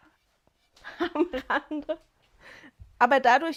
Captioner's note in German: gelächter